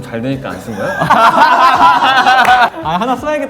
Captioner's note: laughing